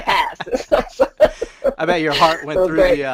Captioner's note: laughing